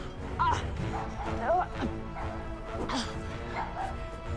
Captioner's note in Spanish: ladridos